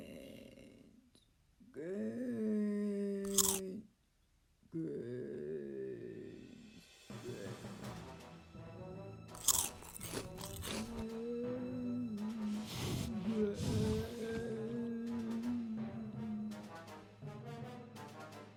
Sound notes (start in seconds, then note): 3.2 chewing; 7.8 scary music; 9.3 chewing; 12.4 heavy snuffling and sniffing sounds